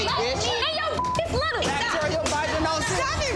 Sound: beep; muffled shouting

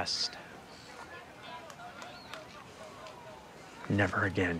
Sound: children playing

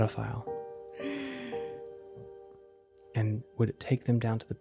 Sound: gasps

